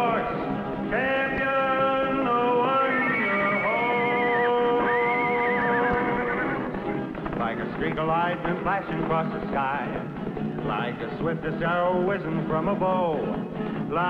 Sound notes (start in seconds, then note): 2.9 horse whinnies